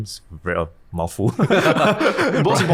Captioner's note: both laughing